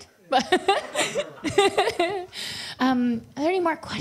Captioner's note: laughs